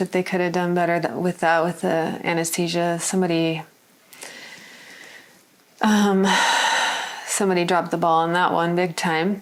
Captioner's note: sighs